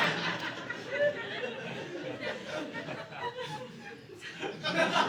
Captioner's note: audience laughing